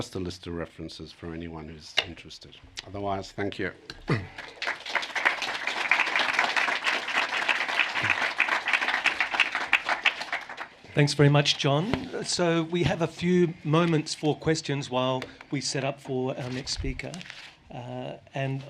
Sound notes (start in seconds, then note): 4.1 applause